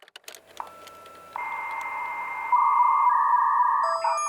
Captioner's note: typing on keyboard; fax machine beeps